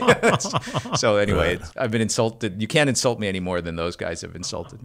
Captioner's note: laughter